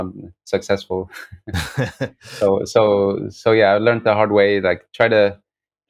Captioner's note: laughter